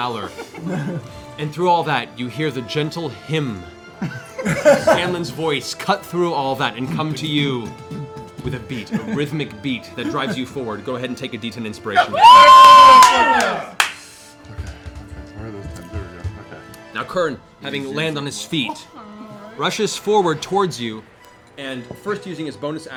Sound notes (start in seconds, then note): 11.9 cheering